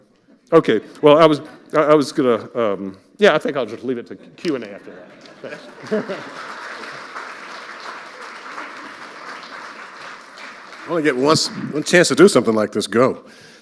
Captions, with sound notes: Okay. Well, I was-- I was gonna, um... Yeah, I think I'll just leave it to Q&A after that. Thanks. (chuckles) (audience applauding) - Only get once-- one chance to do something like this, go.